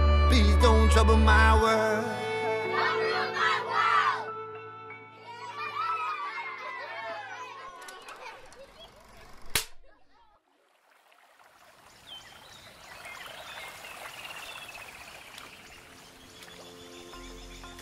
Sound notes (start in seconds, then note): 6.7 group laughing; 9.4 film clicking; 11.7 birds tweeting